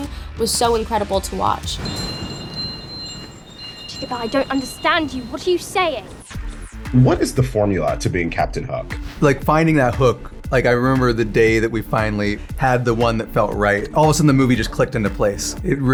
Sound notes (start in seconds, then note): 1.7 magical chimes